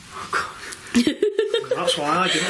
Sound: laughing

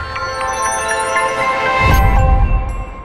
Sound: chiming

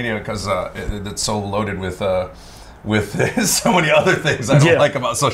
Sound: laughs

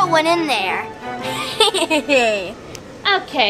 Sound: giggling

